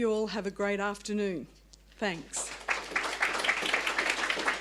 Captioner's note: applause